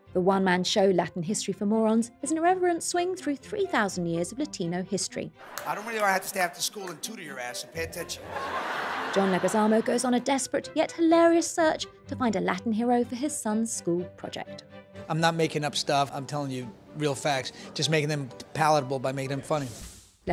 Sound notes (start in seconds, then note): 8.2 laughter